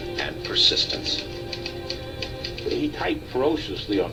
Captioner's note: typing